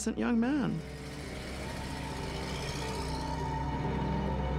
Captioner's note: engine puttering